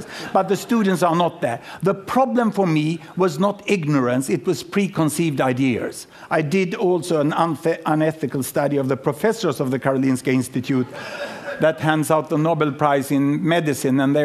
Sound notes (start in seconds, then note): 10.8 laughter